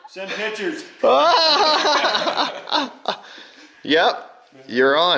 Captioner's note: laughing